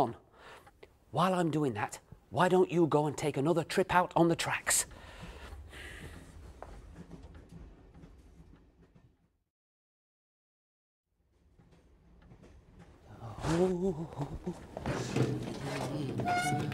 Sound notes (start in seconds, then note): 11.1 mr. perkins hums